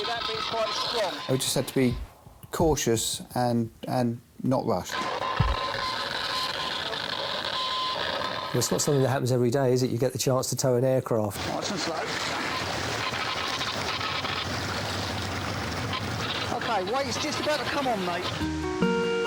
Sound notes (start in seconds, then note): 13.3 water sloshing